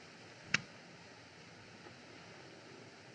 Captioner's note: switch Clicks